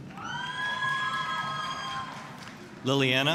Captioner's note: applause, cheering